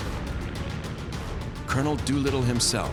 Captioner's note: none